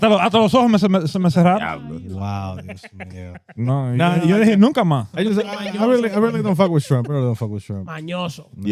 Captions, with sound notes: (Speaking In Foreign Language) Wow, yes, man. (Speaking In Foreign Language) I really don't fuck with shrimp. I really don't fuck with shrimp.